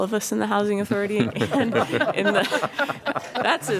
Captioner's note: laughter